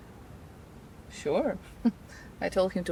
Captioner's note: chuckles